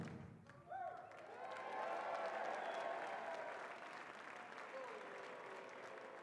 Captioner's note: audience cheering and applauding